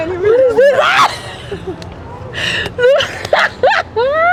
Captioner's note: both laughing